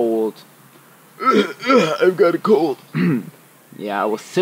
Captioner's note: coughing